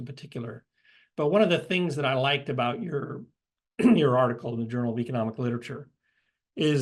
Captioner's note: cough